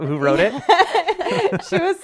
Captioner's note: laughing